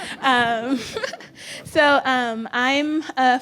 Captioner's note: laughing